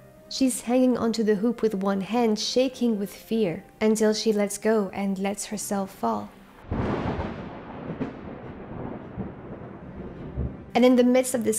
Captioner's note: thunder